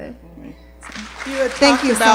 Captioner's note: applause